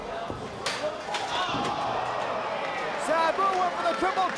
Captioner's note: spectators exclaiming